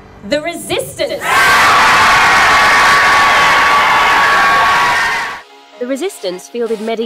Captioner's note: cheering